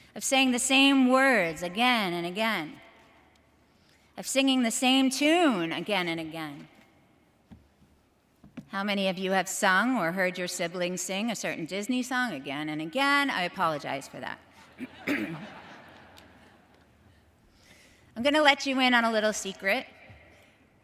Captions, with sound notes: of saying the same words again and again, of singing the same tune again and again. How many of you have sung or heard your siblings sing a certain Disney song again and again, I apologize for that. (clears throat) (audience laughs) I'm gonna let you in on a little secret,